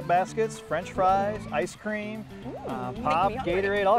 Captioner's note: laughs